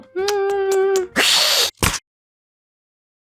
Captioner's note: hiss hiss